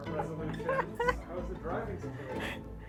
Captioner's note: laughing